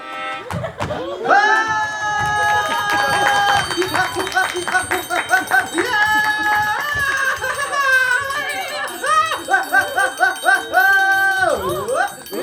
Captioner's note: screams